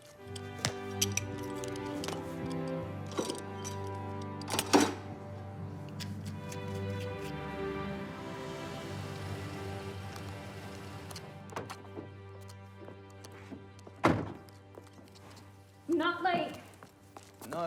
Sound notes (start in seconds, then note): 0.1 gentle music; 3.0 farrier tool clanks